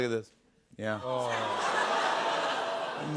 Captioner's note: audience awws